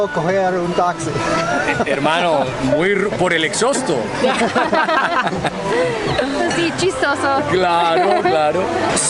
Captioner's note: laughter